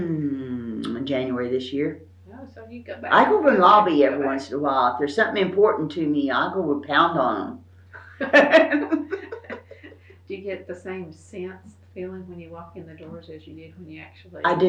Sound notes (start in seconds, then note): 8.0 laughs